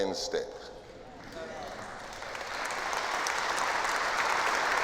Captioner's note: applause